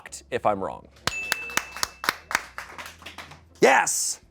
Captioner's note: bell dings; audience applauding